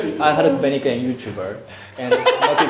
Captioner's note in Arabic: بالهولندية